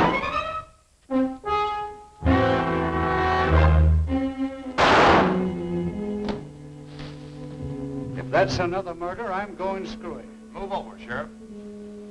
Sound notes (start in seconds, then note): 0.1 dramatic music; 4.7 dramatic music; 4.7 shot firing